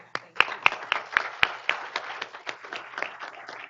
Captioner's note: group applauding